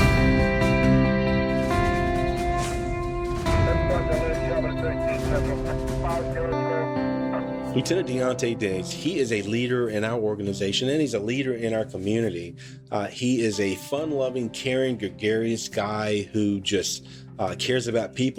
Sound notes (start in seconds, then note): 0.1 soft music; 3.2 police radio chatter